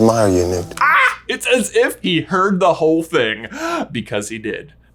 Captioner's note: screams